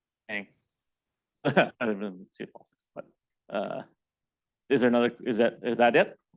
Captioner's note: faintly speaking